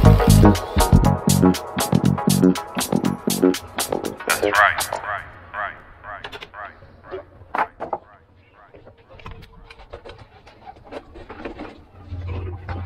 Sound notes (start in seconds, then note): 7.6 board falling